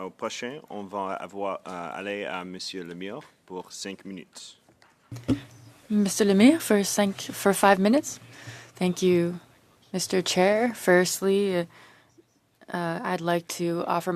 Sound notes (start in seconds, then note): 4.2 speaking French